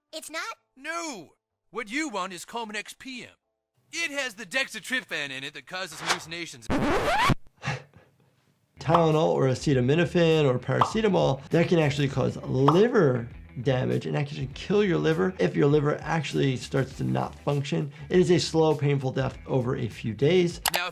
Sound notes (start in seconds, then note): 5.8 record scratches; 7.7 chuckles